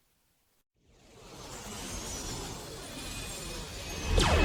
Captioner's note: spacecraft whooshes; cannons blasting; explosions booming